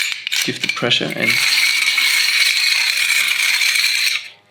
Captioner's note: grinds